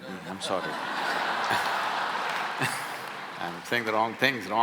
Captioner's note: laughter